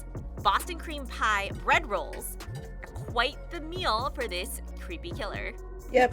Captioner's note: none